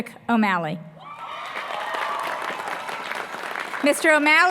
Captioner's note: applause